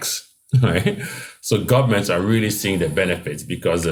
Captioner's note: laugh